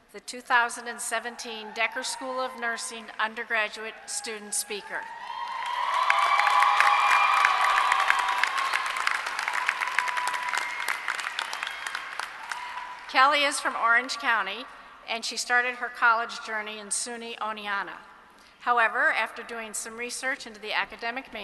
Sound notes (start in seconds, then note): 5.3 applause